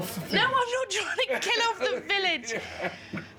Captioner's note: laughing